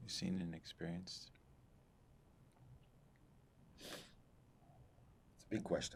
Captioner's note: sniffing